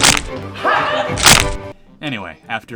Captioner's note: bone Breaking Sound Effect